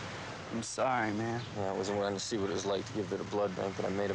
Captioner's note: cars revving